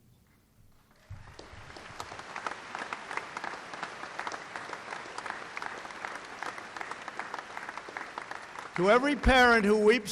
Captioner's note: applause